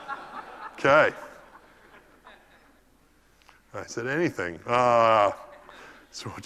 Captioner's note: laugh